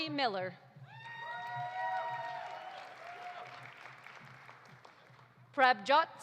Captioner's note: audience cheering; audience applauding